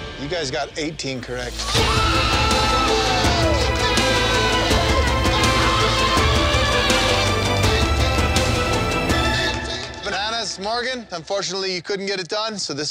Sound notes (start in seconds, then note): 1.6 cheering loudly